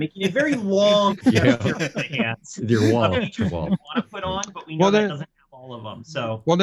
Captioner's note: laughing